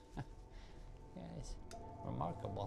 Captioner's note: chuckling softly